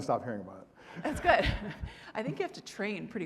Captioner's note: audience laughing